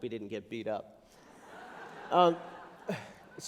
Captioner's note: laughter